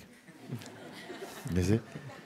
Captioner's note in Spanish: La audiencia se rie